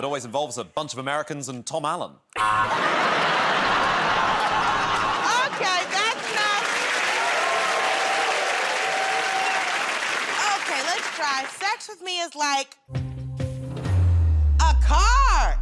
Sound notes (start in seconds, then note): 2.4 laughter; 7.4 cheers and applause